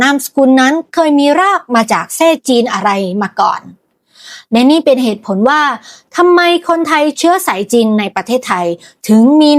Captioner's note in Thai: เสียงสูดหายใจ